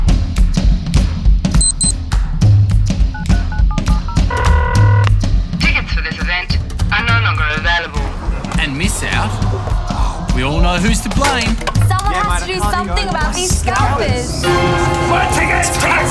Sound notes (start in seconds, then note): 1.6 phone rings